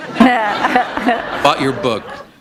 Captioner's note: laughter